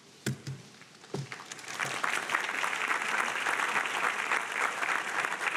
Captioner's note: audience applauding